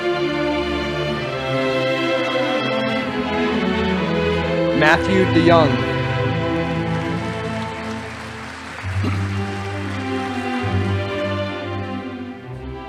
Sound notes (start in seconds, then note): 7.2 audience applauding